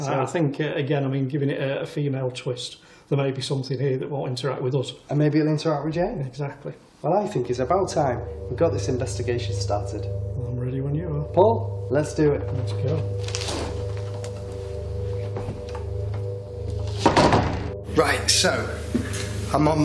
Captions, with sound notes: - Yeah, I think again, I mean given a female twist, there might be something here that won't interact with us. - And maybe it'll interact with Jane. - Exactly. - Well I think it's about time we got this investigation started. - I'm ready when you are. - Paul, let's do it. - Let's go. (doors opening and closing) - Right, so.